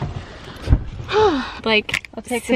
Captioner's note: sigh